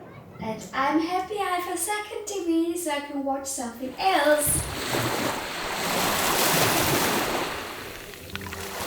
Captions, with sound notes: And I'm happy I have a second TV, so I can watch something else! [sound of waves]